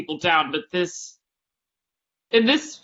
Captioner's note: none